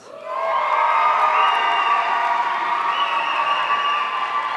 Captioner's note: audience cheering